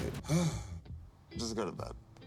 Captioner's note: sighs